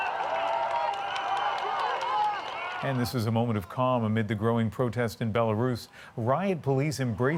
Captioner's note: crowd noise